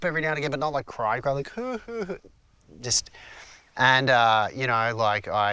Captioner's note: acts sobbing